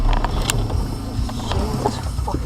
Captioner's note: hard braking sound